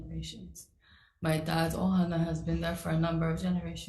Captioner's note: speaks foreign language